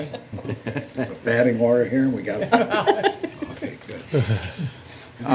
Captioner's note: laughter